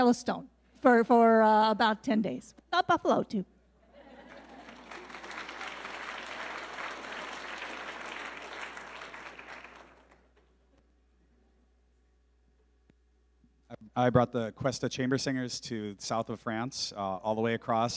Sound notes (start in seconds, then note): 3.9 audience laughing; 6.7 audience clapping